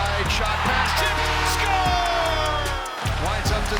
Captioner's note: goal Horn